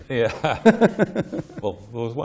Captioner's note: laughs